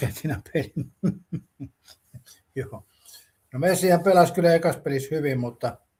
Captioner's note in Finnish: naurua